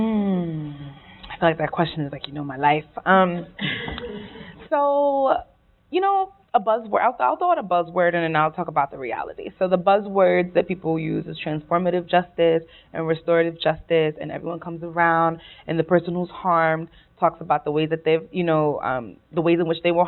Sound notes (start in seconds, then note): 3.6 laughing